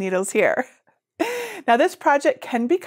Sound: laughs

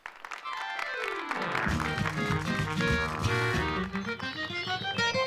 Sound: applause

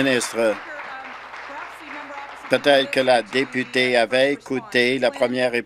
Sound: applause

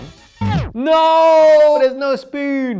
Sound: record scratching

